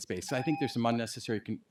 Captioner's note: timer tone